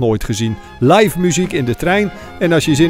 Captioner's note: voiceover